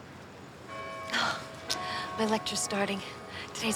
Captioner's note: bell rings